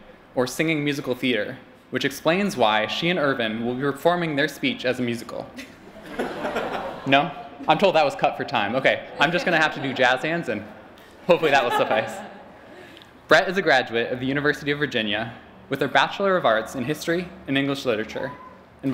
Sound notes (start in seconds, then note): 5.5 laughter